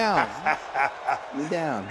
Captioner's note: Austin chuckles